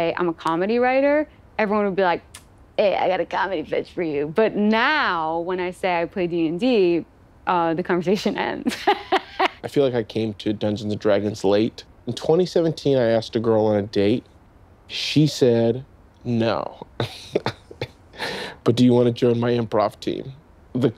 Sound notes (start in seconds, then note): 8.7 laughing; 16.8 chuckling